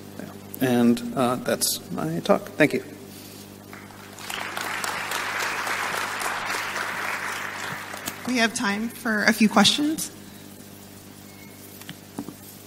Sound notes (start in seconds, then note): 3.7 audience applauding